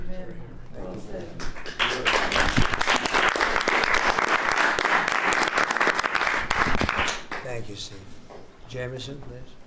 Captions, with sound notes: (applause). Thank you, Steve. Jameson, please.